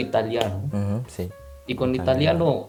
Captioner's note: Spanish